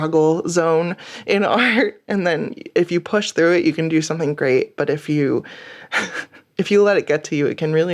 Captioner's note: laughs